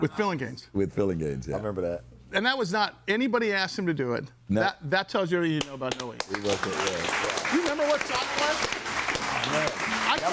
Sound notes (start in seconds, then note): 6.1 crowd applauding